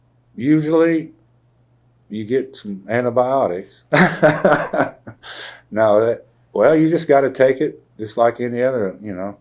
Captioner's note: laughs